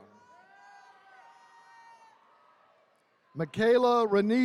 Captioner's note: attendees cheering